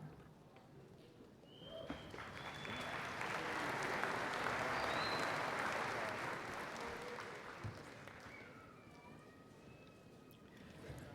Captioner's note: applause